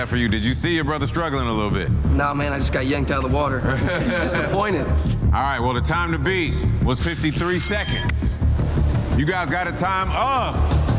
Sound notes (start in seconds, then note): 3.6 all laughing